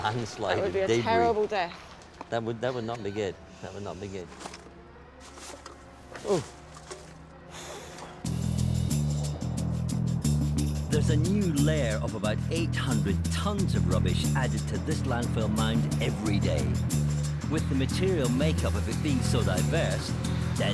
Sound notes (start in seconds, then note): 7.5 exhales; 8.1 wind whistling; 8.4 light groovy music